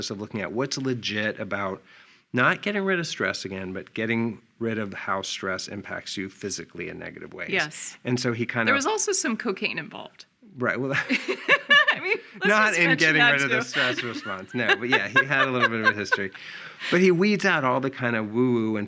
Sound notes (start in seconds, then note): 10.7 laughing